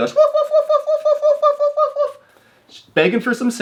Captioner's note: imitating dog barking